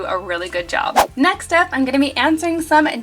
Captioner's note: air whooshing